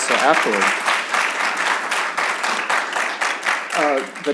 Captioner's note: applause